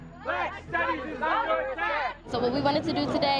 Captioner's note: muffled chanting